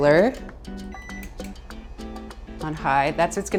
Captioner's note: turning on the broiler loudly